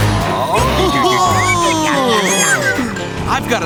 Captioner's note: chuckling